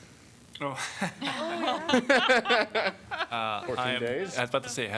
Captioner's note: laughter